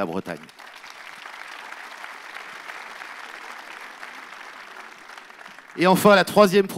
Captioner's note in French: Applaudissements